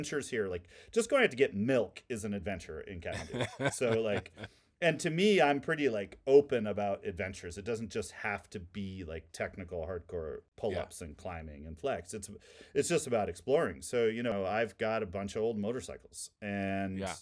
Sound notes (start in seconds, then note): 3.1 laughing